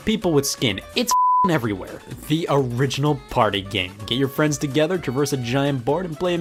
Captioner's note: beep